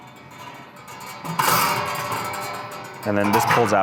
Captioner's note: metal clanging